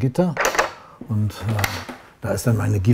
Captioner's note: clacking